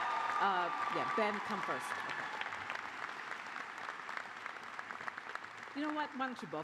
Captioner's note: cheers and applause